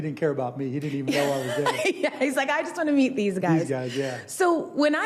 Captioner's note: laughing